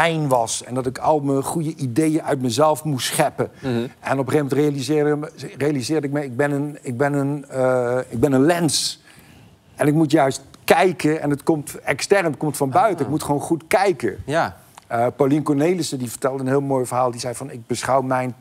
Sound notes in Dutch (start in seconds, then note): none